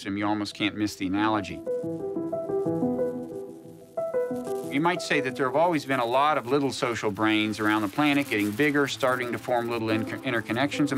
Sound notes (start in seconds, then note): 4.6 Static